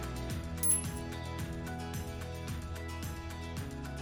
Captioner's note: coins clink